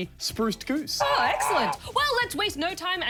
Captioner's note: goose honks